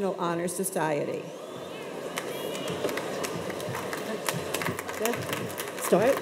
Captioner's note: audience members applaud